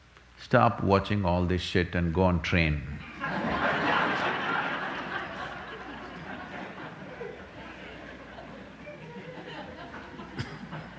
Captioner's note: laughter